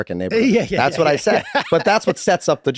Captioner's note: Charlie laughing amusingly